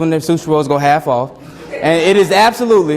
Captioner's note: students laugh